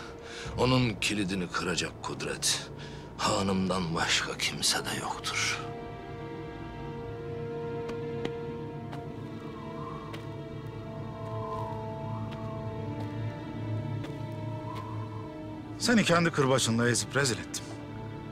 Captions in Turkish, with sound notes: ...onun kilidini kıracak kudret... ...hanımdan başka kimsede yoktur. (Gerilim müziği) (Rüzgâr esiyor) Seni kendi kırbacınla ezip rezil ettim.